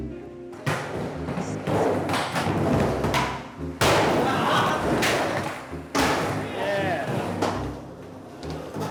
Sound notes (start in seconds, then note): 0.9 wheels rolling; 4.1 crowd reacting